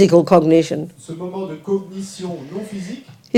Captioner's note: audience member speaks in French